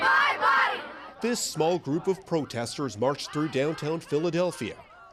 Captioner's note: chanting